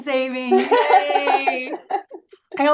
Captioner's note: laughs